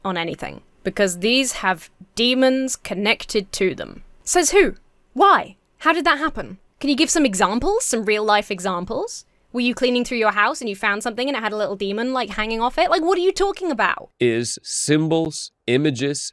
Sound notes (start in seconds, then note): none